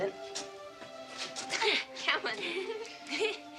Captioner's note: children laugh